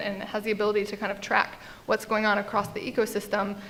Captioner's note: none